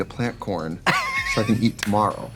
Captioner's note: Katya laughs